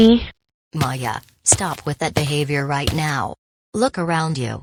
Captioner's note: footsteps